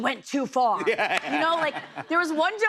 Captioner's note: laughter